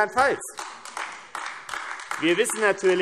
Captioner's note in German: Beifall AfD